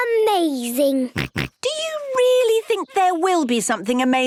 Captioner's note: snorts